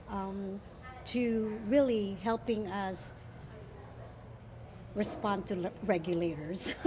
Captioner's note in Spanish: risas